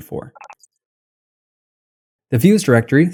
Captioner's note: beep